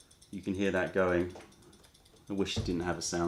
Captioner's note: timer